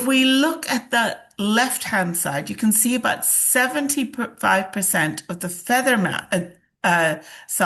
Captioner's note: gasps